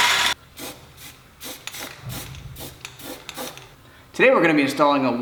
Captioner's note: spray painting